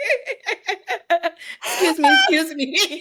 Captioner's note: laughs